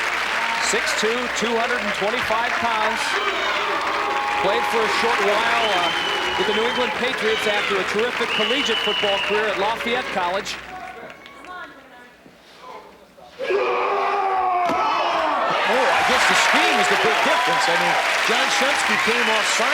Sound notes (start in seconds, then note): 13.0 roaring